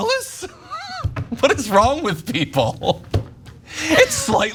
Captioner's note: laugh